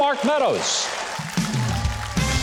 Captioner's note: audience applauding; playful percussive music